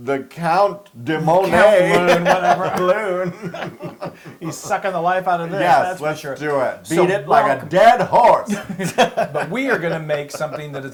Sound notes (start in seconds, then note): 1.9 laugh; 9.0 laugh